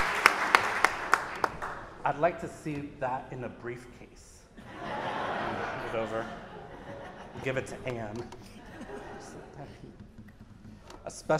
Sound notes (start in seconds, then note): 0.0 audience applauding; 4.6 audience laughs